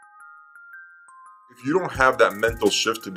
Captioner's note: voiceover